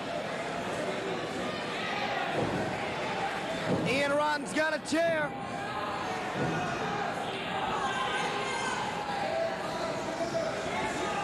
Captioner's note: cheers and applause